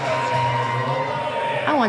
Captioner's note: crowd cheering